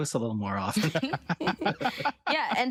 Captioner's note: laughter